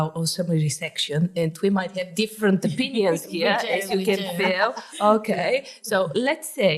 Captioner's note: laughing